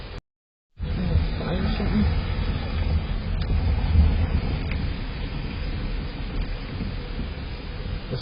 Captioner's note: indistinct chatter